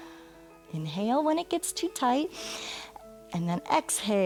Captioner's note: inhales